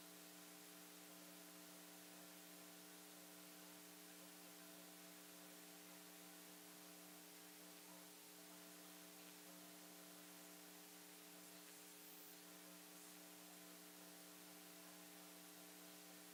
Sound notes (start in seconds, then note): none